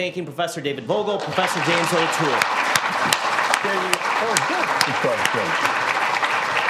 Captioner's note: applause